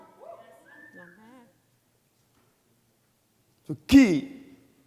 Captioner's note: audience whoops and whistles